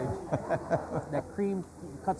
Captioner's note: laughs